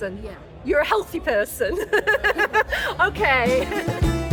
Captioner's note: laughing